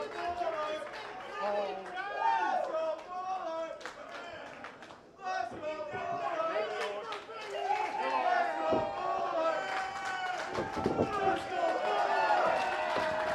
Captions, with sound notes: [Crowd begins chanting] LET'S GO BULLARD [Crowd chanting] LET'S GO BULLARD [Crowd clapping and chanting] LET'S GO BULLARD [Crowd chanting] LET'S GO BULLARD